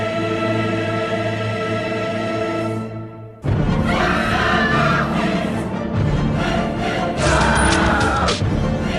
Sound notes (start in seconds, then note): 3.4 Female Wilhelm scream; 7.2 Scream from "Perfect Dark"